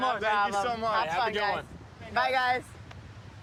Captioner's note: none